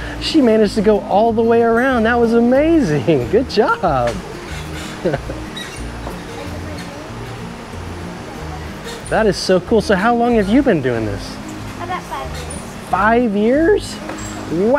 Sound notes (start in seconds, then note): 4.4 bar screeching; 4.6 laughs